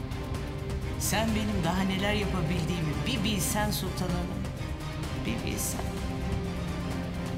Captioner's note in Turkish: İçinden konuşuyor